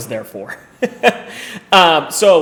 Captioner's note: laughs